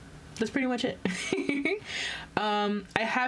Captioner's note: laughs